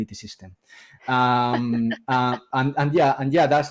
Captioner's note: laughs